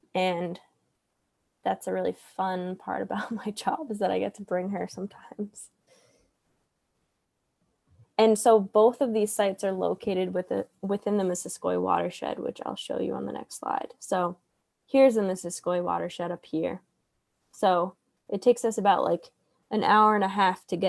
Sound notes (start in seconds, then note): 3.3 laughs